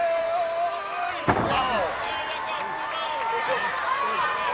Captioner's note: Brutus yells